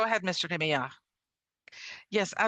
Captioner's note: speaking French